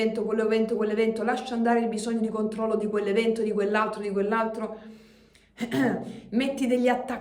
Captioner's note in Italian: schiarire la voce